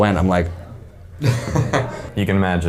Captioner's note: laughing